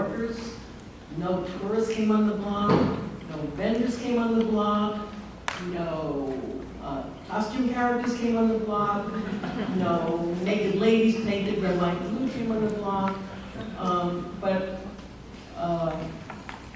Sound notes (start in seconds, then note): 9.1 laughter